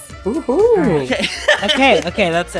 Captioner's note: laughs